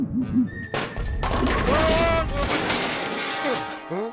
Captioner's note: bowling pins clatter